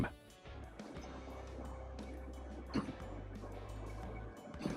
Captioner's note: train engine revving